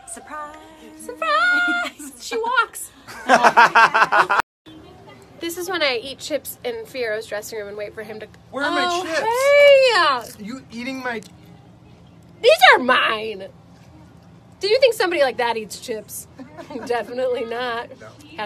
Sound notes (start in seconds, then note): 3.1 laughs; 16.4 laughs